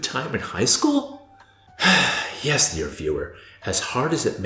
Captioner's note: sigh